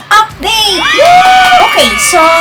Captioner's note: clapping and cheering